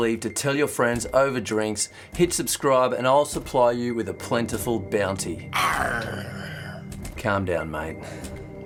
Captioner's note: pirate aaargh